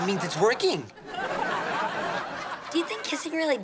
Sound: laughing

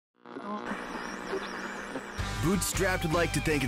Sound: radio tuning

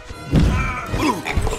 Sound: grunts

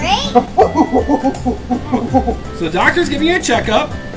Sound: gorilla sounds

